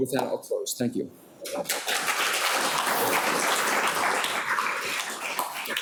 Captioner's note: audience applauding